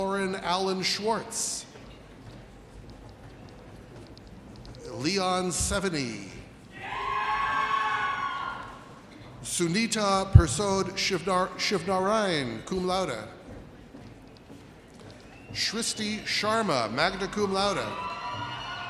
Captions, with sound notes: Torin Alan Schwartz. Leon Seveny. (audience cheers) Sunita Pershod Shibdarian, cum laude. Srishti Sharma, magna cum laude.